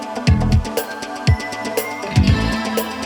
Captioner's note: none